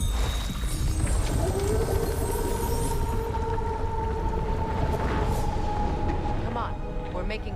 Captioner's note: howl